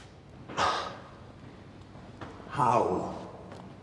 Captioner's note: <i> sighs</i>